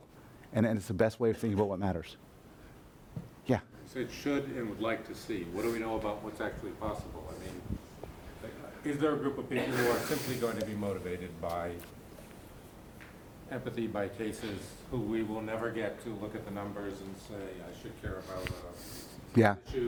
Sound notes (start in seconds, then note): 4.0 voiceover; 18.5 voiceover